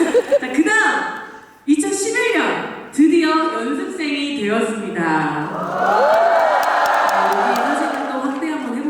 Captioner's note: cheers